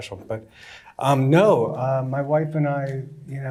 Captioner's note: none